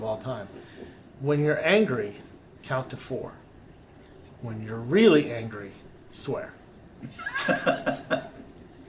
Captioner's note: laughter